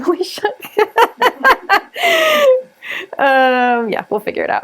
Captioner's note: laughs